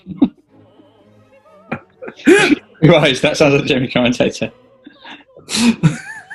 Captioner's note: laughing; giggling